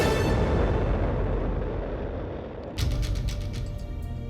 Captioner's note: rocket roaring